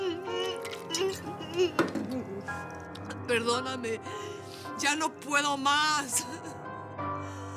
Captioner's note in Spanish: sollozos